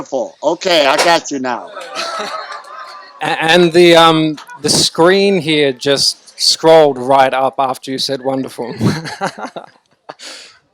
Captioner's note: laughs